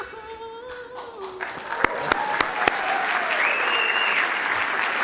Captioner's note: audience applauding